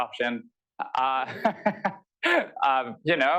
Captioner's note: laughter